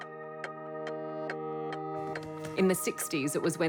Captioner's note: clock ticks